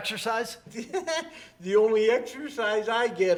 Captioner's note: Blue giggles